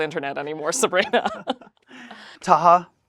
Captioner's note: both laugh